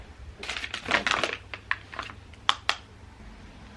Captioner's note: plastic crinkling